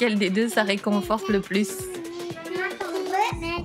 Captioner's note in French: babil des enfants